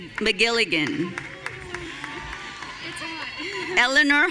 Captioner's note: audience cheering